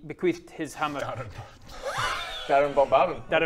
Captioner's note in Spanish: risitas